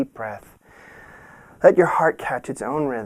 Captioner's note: breathing in deeply